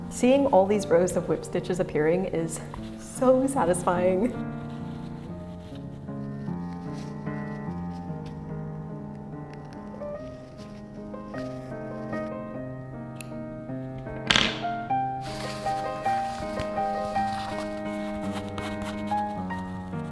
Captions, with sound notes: Seeing all these rows of whip stitches appearing is so satisfying. (classical music) (fabric rustling) (scissors snipping) (scissors clattering) (classical music) (fabric rustling)